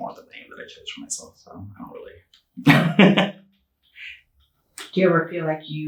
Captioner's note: chuckling